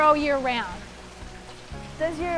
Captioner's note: sprinkler whirs